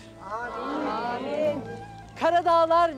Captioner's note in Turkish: Hep bir ağızdan